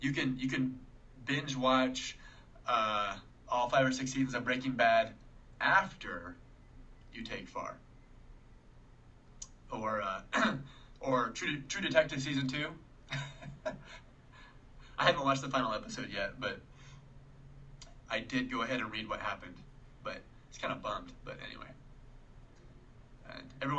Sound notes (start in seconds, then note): 13.0 chuckling